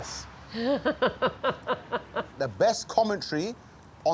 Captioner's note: laughs